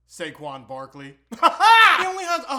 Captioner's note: weird laughing